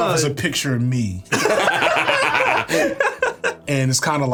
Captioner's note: laughing